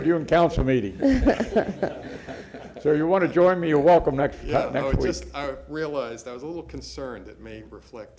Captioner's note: laughter